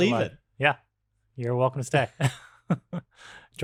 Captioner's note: laughs